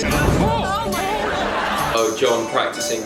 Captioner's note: general panic